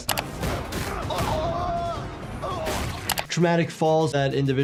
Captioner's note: person yells in agony